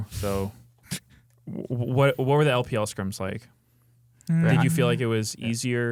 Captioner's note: laughs